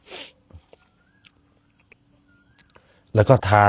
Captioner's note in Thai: เสียงสูดหายใจ